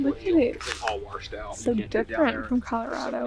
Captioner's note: pat